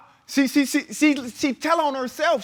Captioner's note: stammers